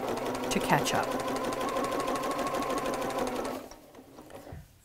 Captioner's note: sewing Machine Sounds